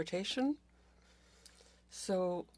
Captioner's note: speaking French